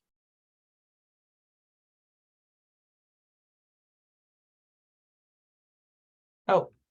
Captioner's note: silence